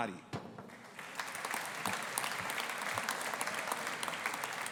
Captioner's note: audience applauding